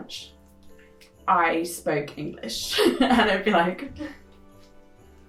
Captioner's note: laughs